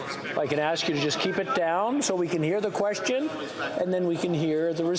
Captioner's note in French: voix de l'interprète